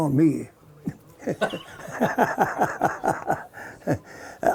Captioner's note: laughing